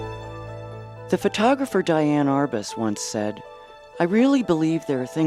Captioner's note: voiceover